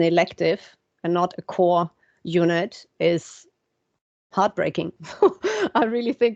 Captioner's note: chuckles